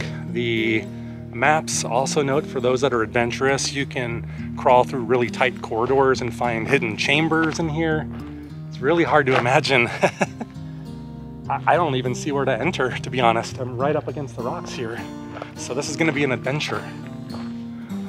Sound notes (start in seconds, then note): 9.8 laughter